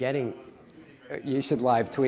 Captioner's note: audience member speaking off-mic